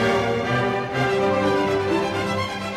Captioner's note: none